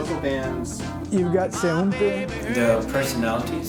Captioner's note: speaks in Spanish